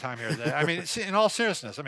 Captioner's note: laughs